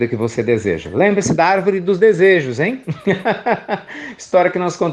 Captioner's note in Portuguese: Risos